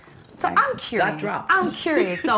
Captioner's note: laughs